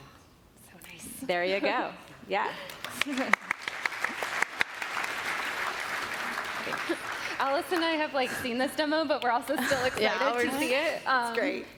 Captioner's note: applause